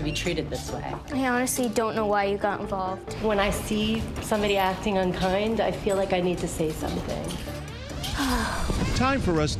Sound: sigh

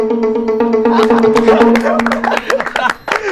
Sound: all laugh

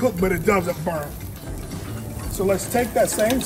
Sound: steaks sizzling

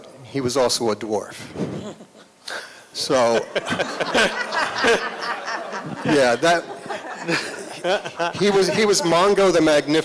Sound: laughter

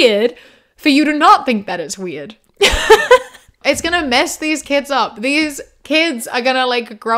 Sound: laughs

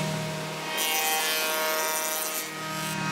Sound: machine whirrs

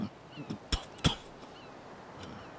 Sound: spitting

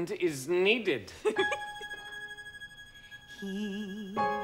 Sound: Harriet giggles

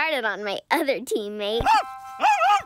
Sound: bark; laughing

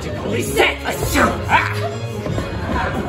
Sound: achoo!

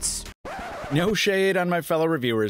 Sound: record scratches

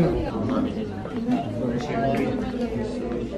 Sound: footsteps

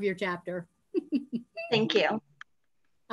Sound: laughing

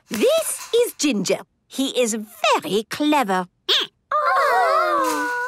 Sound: squeaking

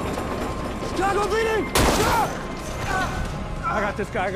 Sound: gunshot

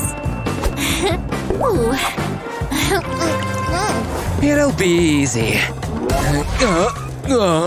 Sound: taking sips

